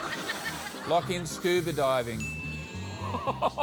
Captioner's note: laughter; ding!; chortles